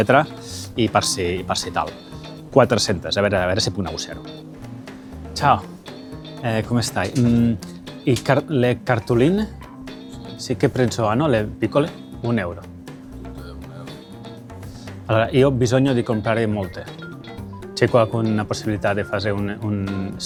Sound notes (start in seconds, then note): 5.1 in Italian